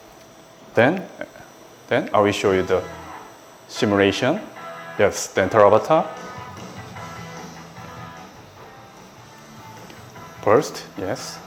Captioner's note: machine whirring